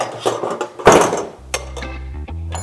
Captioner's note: thump; thud